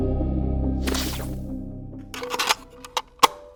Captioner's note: static hissing; suspenseful music; static hissing; cassette clicking; gentle music